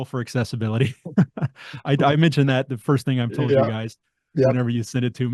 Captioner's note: laughs